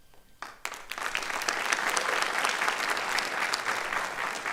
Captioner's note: applause